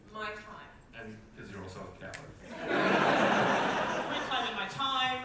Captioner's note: audience laughter